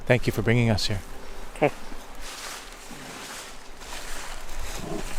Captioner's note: footsteps through leaves